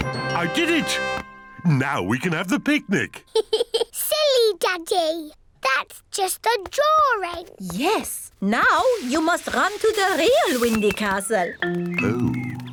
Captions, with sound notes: I did it! Now we can have the picnic. (GIGGLES) Silly Daddy! -That's just a drawing. -Yes. -Now you must run to the real Windy Castle. -Oh.